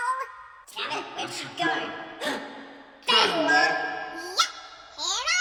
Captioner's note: gasp